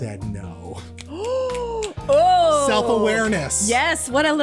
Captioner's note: snaping fingers